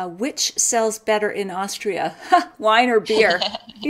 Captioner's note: laughs